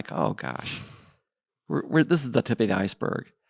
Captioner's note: laughs